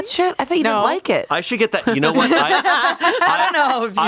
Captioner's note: everyone laughs